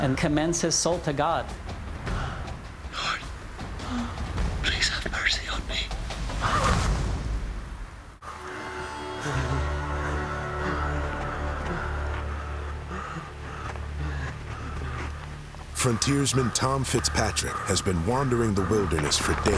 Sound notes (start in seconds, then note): 6.8 thud; 11.5 panting heavily